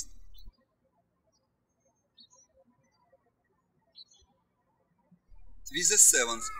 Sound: birds chirping

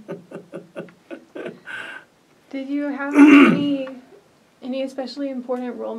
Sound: laughs; clears throat

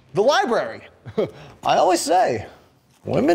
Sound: chuckle

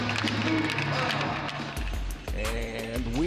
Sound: audience applaud

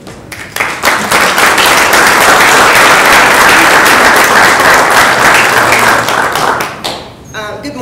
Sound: applause

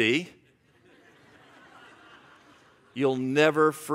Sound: congregation laughs

